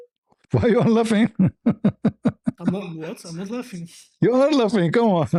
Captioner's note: laughter